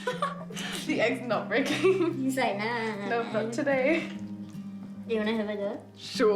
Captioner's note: laughs; laughs